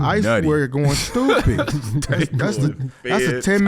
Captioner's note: laughs